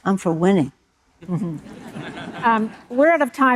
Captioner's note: audience laughing